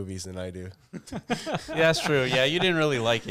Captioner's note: laughing